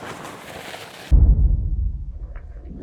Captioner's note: bag rustling; thud